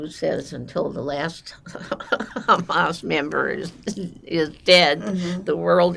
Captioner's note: laughing